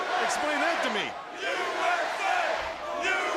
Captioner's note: crowd cheering